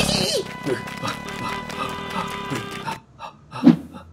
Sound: panting

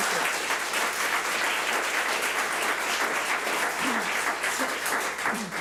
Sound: public applauding

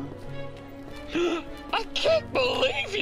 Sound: gasps

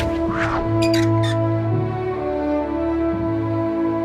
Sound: squeaking; dramatic music

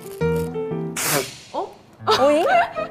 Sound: rustle rustle; achoo

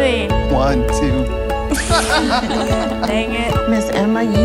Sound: both laugh

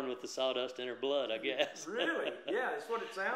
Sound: laughs

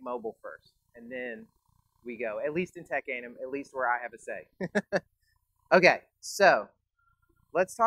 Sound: laughs

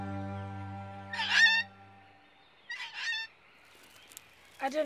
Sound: bird squawking

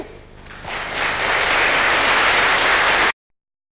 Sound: applause

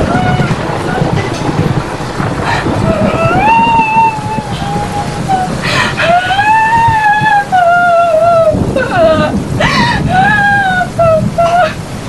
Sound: crying; crying

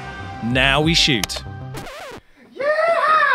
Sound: record scratch

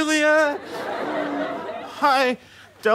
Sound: audience laughter

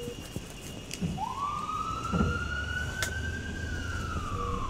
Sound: sound of ambulance sirens

